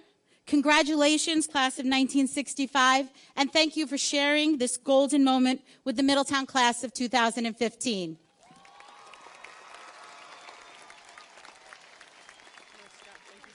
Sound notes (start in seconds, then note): 8.3 audience cheers and applauds